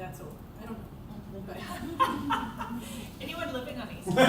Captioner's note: laughter